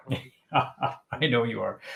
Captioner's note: laughing